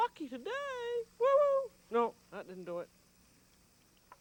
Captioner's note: exclaims